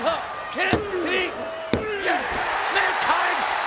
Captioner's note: hand pounding